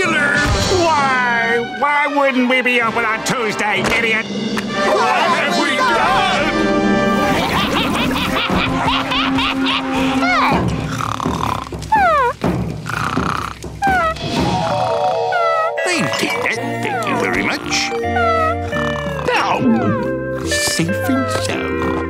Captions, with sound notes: Why? Why wouldn't we be open on Tuesday idiot! What have we done? [cackling] [snoring] I'll take that, thank you very much. [snoring] Safe and sound.